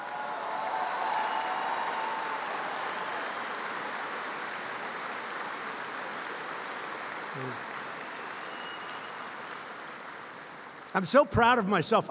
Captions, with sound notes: (Applause) I'm so proud of myself;